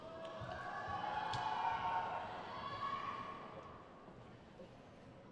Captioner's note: crowd cheers